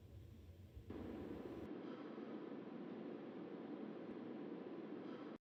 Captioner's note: recording humming